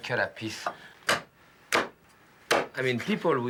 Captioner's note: chopping